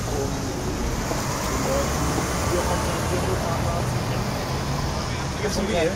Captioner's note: bus, overlaying the conversation